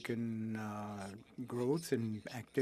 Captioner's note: speaking French